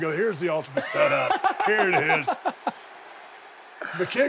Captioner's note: Sami laughing